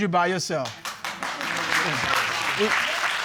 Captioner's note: audience applauds